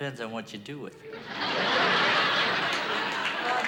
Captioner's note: laughter